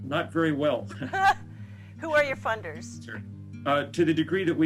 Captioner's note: laughing